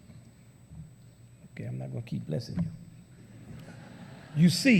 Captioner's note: laughter